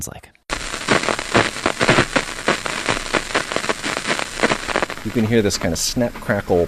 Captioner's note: scratching, popping sounds